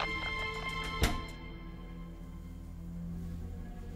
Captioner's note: door opens; suspenseful music